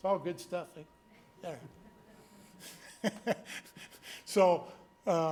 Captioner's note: board members laughing